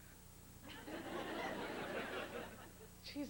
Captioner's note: sparse laughter